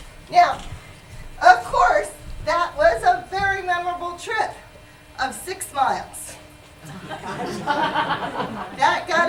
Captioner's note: laughter